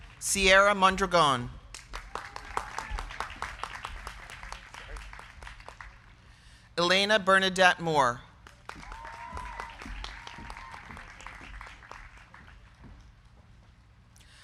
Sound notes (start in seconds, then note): 0.0 crowd cheering; 0.0 crowd clapping; 1.6 crowd clapping; 1.9 crowd cheering; 8.4 crowd clapping; 8.6 crowd cheering